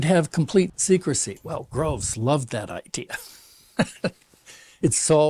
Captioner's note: laughs